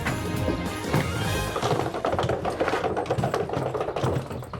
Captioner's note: rolling luggage